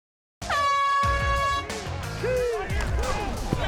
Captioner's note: horn blares